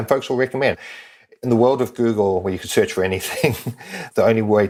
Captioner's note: laugh